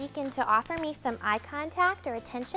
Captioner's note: clicker clicks